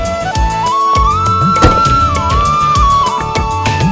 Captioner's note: Door closes